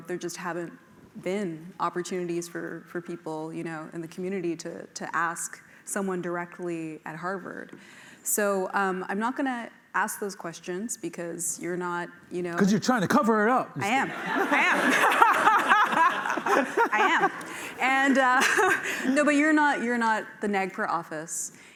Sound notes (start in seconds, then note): 13.8 laughter